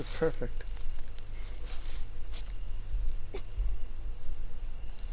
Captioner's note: insects chirping